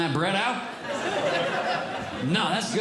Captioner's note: audience Laughing